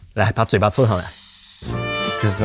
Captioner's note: deep inhale